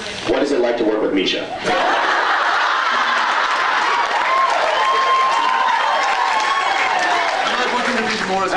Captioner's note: laughs, cheers